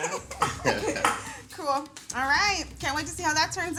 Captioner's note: laughs